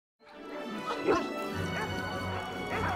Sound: dogs barking

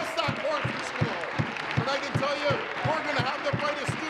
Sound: some Applause

